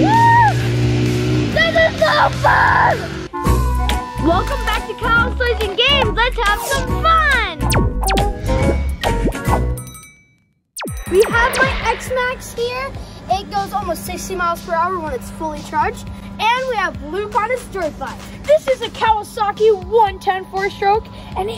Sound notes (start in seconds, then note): 3.3 playful music; 7.6 laser zapping; 10.8 bell rings